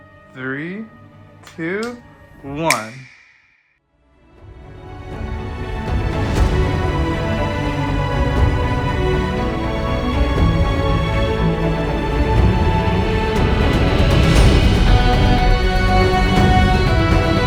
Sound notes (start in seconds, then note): 2.6 snap noise; 4.1 epic music